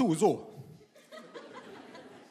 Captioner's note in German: Gelächter